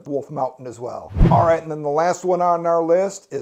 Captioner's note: air whooshing